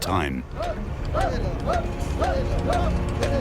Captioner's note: workers chant